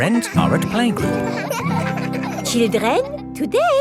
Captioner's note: children laughing